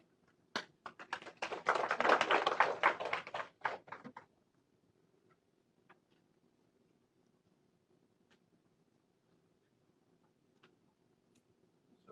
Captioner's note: applause